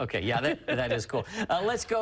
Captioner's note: laughter